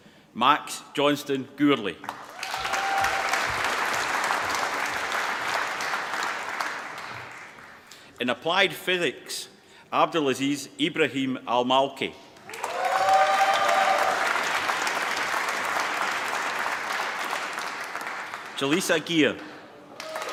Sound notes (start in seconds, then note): 2.0 applause; 12.4 applause